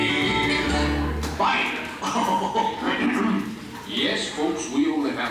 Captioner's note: WENDELL laughs